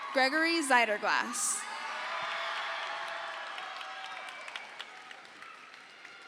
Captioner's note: crowd cheers